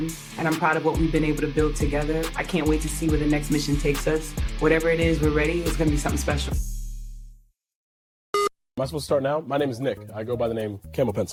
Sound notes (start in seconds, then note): 8.3 production beep